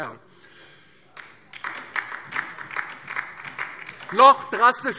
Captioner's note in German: Beifall DIE LINKE